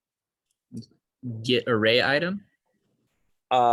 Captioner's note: calm Voice